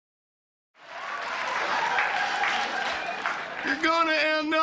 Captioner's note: audience cheering